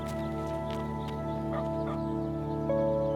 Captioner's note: footsteps running; dog barking; somber music